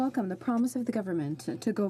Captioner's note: speaking French